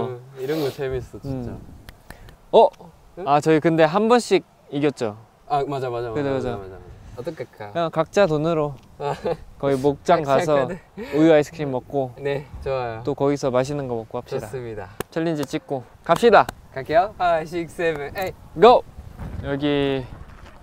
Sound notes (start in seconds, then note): 9.0 laughing